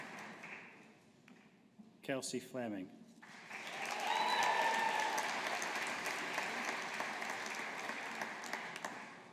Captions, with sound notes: Kelsey Fleming. (AUDIENCE APPLAUDING)